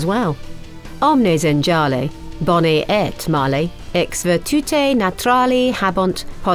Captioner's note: speaking foreign language